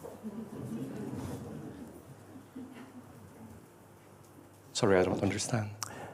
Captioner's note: laughter